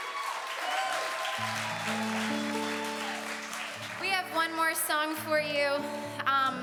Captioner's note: audience continues to cheer